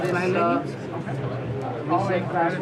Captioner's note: office noise